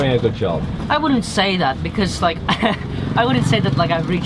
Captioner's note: chuckles